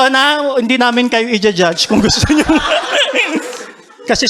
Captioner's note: laughter